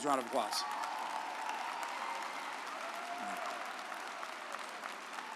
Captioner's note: audience applauds